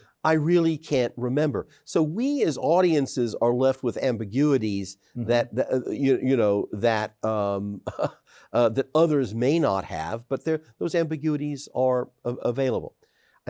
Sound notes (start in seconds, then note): 7.8 chuckles